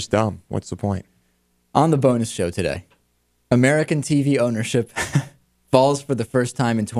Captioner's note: laughs